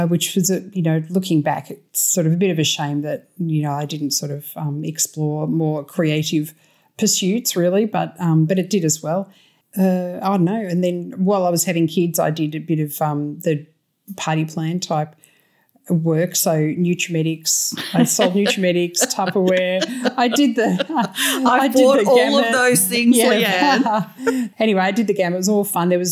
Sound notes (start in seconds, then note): 17.8 laughter